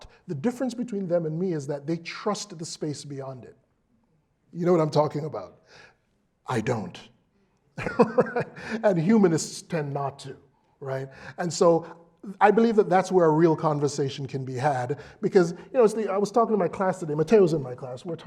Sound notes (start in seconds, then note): 7.7 laugh